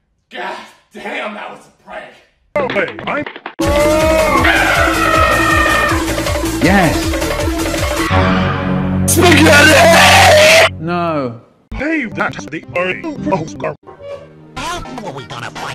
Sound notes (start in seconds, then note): 8.0 car screeches, dramatic brass note